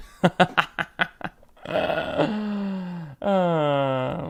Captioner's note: laughing